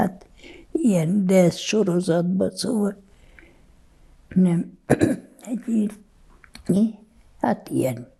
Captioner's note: clears throat